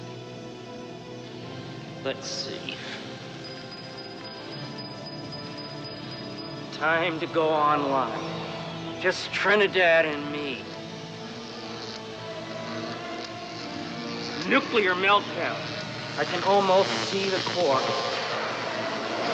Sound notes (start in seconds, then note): 11.8 electric buzzing